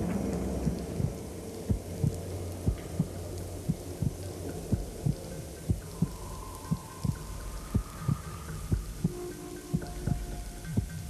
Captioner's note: heart beating